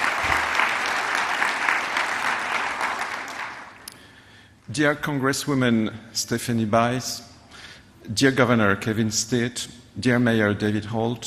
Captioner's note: applause